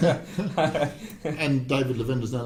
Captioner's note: laughing